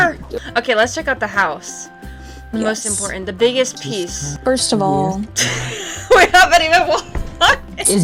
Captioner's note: laughing